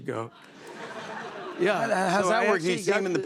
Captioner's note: laughter